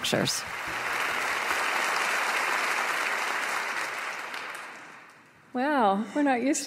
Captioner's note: audience applause